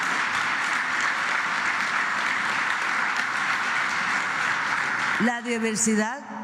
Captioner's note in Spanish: aplausos